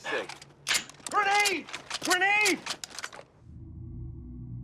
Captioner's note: gun clocks